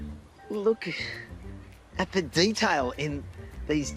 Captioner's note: sighs